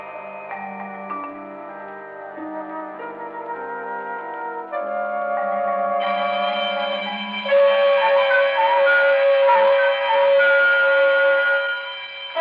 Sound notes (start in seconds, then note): 6.0 alarm ringing